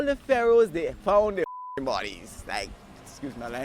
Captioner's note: beep